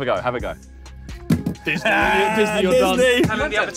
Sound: bottle thuds

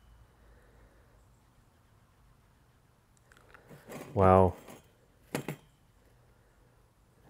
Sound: none

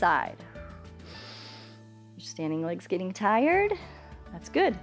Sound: inhales

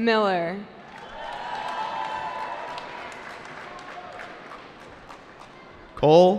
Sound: cheering

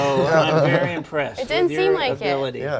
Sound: laughing

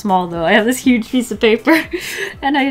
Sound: laughs

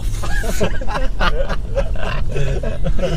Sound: laughes

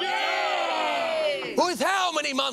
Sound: cheering

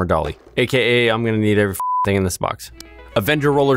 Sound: beep

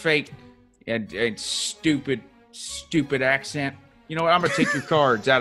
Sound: laugh

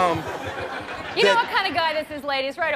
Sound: audience laughs

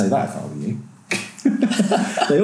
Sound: laughing

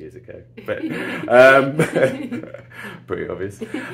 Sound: laughing

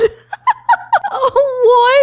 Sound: chuckling

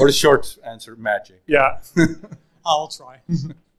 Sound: chuckles

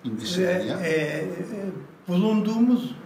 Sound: foreign language

